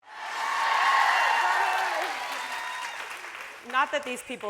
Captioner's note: audience cheering